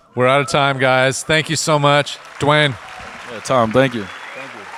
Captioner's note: audience cheering